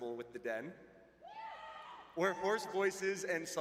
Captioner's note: cheering